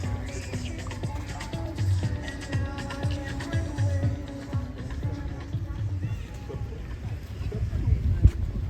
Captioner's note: Chora